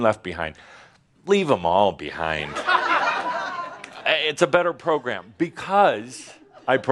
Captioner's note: laughter